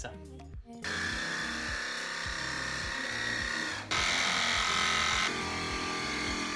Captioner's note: saw noise